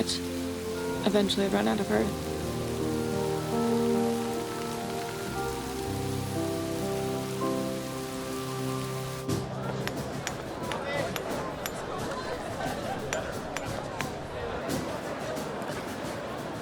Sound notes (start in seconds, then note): 9.2 crowd outside murmuring; 9.2 marching music plays